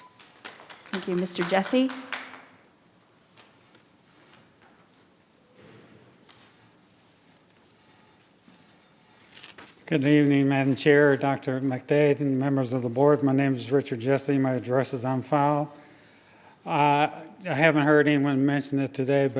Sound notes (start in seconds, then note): 0.0 audience clap